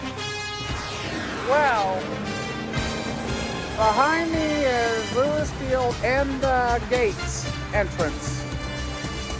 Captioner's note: normal voice